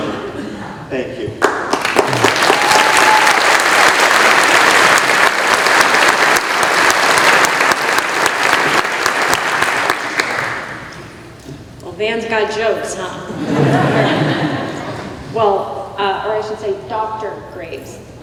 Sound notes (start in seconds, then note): 1.4 applause